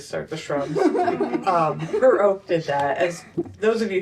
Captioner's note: laughter